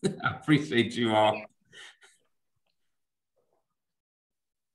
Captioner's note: laughs